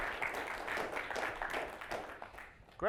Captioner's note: applause